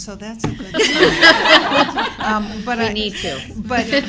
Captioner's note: laughter